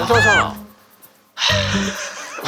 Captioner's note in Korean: 하아